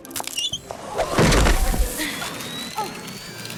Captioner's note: thud!